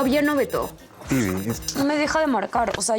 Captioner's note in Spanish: Suena el celular